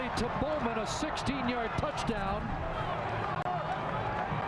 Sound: cheering/applause

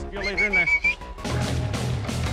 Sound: booger whistling

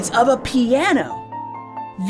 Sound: piano crash!

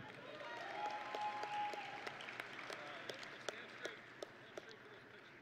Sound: audience and graduates cheering

